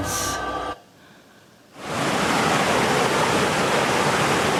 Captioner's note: waterfall sounds